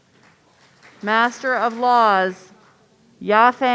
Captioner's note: audience applauding